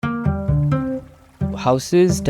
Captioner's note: water gushing